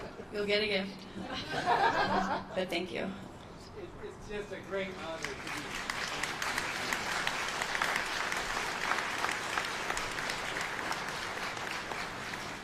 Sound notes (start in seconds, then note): 4.8 applause